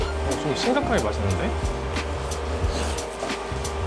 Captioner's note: slurp